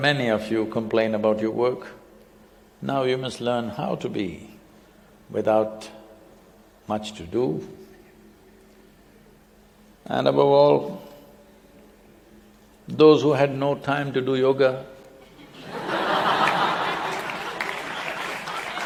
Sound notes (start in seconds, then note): 15.3 laughter; 15.3 laughs